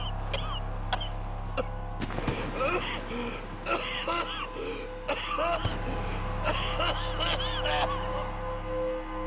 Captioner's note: Arthur just cannot stop coughing. He falls to the ground and passes out